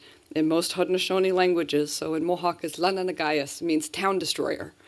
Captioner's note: non-english